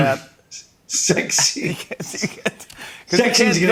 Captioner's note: laughter